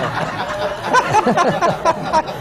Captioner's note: laughter